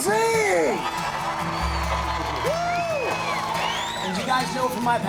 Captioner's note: crowd cheering and whistling